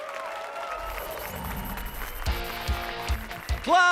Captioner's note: applause and cheers